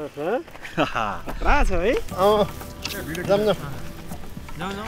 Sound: laughter

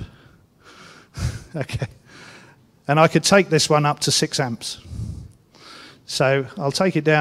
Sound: laugh

